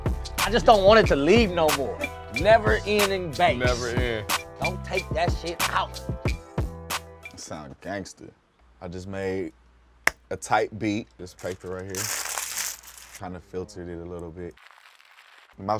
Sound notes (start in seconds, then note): 11.3 paper crinkles